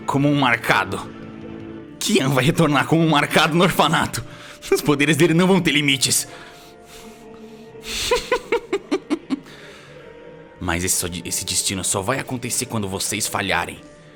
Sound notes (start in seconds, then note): 7.8 chuckles